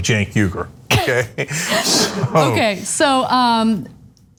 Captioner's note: laugh